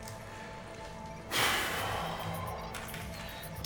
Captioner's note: deep exhale